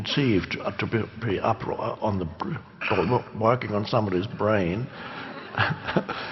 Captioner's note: chuckles